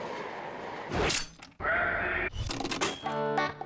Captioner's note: key clicking; machine dinging; upbeat music